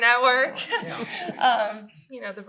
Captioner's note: laughter